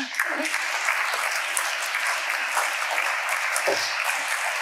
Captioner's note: audience applauding